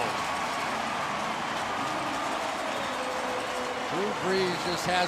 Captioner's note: crowd cheering